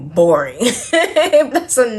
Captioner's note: laughs